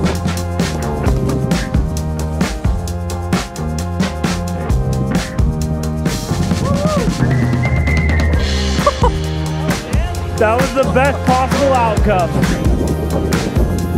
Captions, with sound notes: (laughing) That was the best possible outcome.